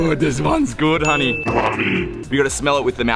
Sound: ominous Voiceover

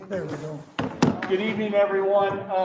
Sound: gavel hammering

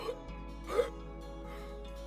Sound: gasping

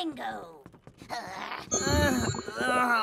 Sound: Nikki growling; Max groaning

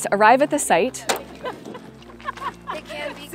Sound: laughing

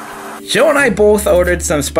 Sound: TV static

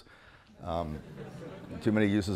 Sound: audience chuckling

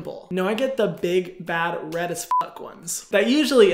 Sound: beep

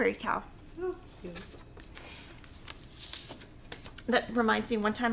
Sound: papers shuffling

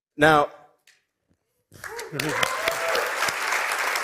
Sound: cheering and applause

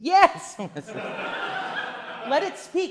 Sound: audience laughing

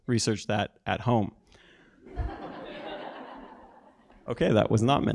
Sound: laugh

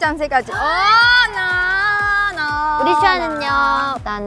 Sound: excited

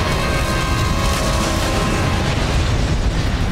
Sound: boom; flames roaring

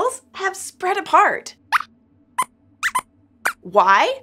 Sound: squeaks squeaks

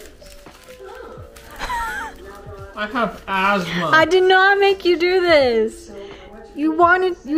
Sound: laughs

